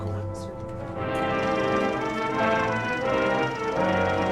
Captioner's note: projector reel flickers